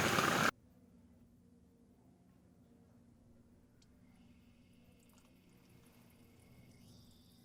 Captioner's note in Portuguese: silêncio